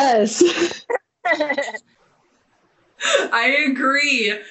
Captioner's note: laughing